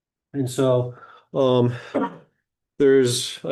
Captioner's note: clears throat